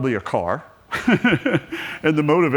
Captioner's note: laughs